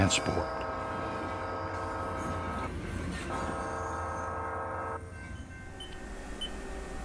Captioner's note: train